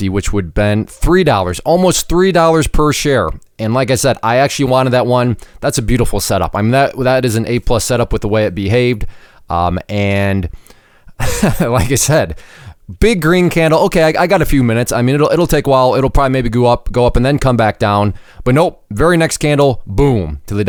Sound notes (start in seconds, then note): 11.2 laughs